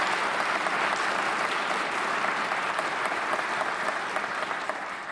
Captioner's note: applause